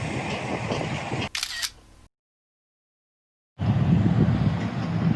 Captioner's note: camera shuttering; wind whooshing